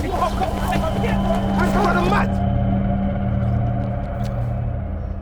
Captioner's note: gang shout